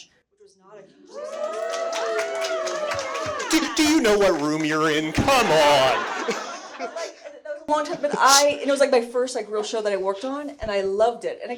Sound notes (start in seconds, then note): 1.1 audience clapping; 5.8 everyone laughing; 7.0 microphone cutting out